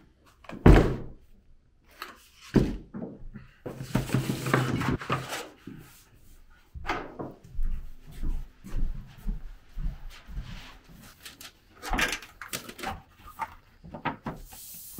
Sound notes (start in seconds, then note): 1.1 table thumping